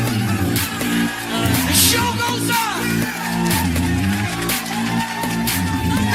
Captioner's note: Aplauze